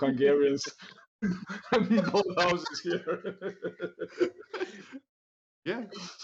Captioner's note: laughter